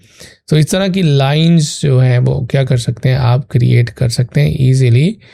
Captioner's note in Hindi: नाक से की जाने वाली आवाज़